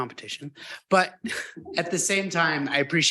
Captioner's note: chuckles